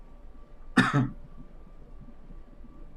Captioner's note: coughs